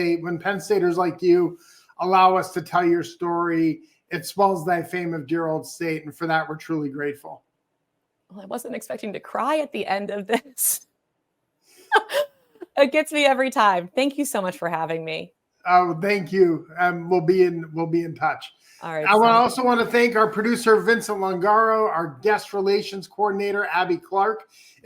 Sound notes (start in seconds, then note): 11.9 laughs